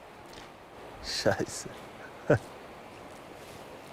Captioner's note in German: Lachend